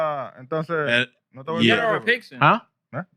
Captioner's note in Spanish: Hablando en idioma extranjero